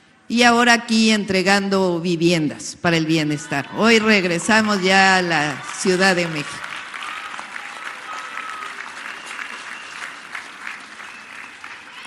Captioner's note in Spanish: aplausos